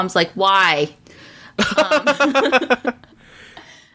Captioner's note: laughs